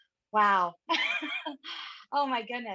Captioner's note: laughs